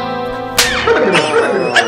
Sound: slaps

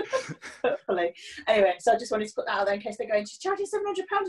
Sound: laughing

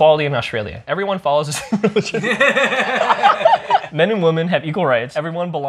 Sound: laughter

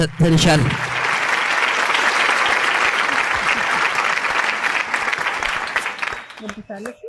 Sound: applause

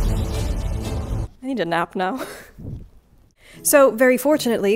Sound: laughs

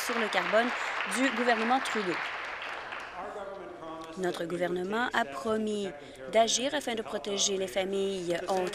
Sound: applause

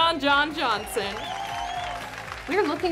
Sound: audience cheers and applauds

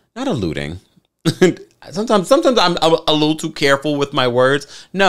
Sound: chuckles

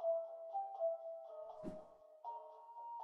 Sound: faint whoosh

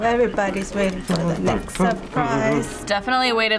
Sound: hums along

